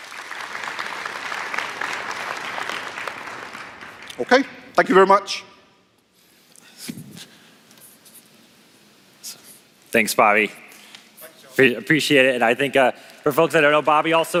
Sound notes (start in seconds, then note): 4.3 applause